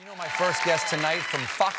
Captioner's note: cheers and applause